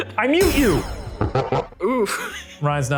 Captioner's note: laughing